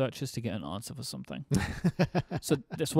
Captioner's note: laughing